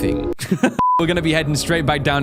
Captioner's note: intermission beep